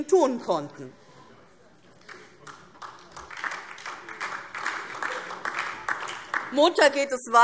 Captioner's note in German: Beifall DIE LINKE und vereinzelt SPD